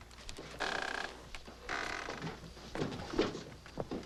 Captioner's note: chair creaks